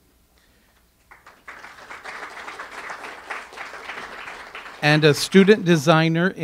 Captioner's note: audience applause